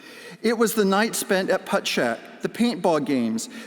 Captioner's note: none